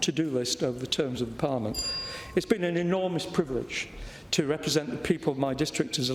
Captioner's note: bell rings